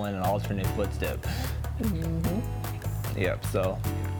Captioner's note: none